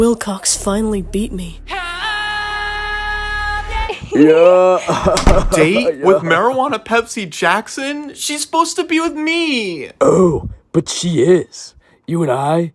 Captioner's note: Gay laughter